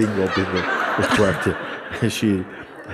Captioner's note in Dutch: gelach